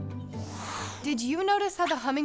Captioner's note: air whooshing